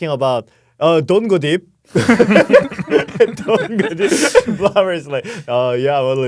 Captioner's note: laughs